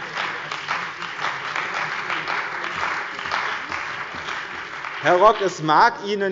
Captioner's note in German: Beifall bei dem BÜNDNIS 90/ DIE GRÜNEN und der CDU